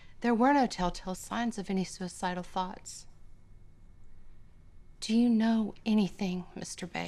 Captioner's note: none